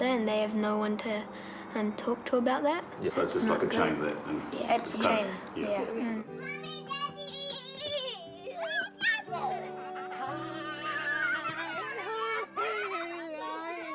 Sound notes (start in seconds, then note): 8.4 squeals; 10.2 kids squeal happily